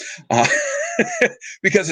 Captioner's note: laughing